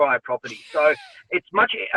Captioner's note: woman laughs